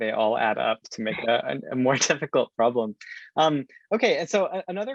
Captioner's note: chuckling